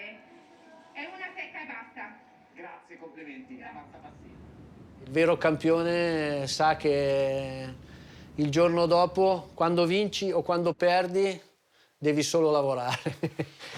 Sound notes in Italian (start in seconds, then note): 5.2 parla in italiano